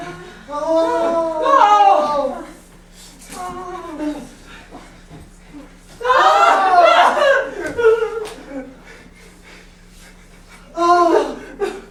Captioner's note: sailors wailing and sobbing